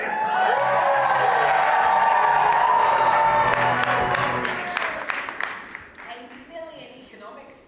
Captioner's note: audience cheers